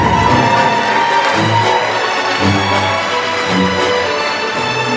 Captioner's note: applause